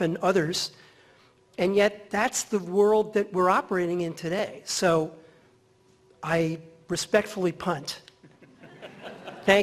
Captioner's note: laughter